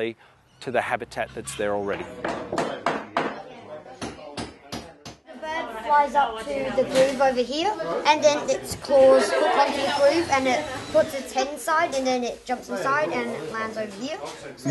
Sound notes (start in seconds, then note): 2.2 workshop noise